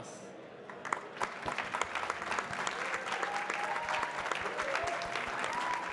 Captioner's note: audience cheering and clapping